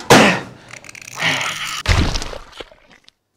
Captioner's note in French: Explosion